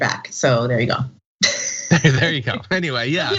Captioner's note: laugh